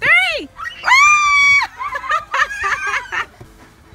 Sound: laughing

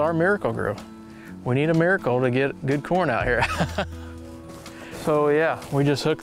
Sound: laughing

